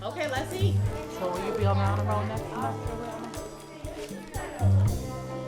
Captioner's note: children chattering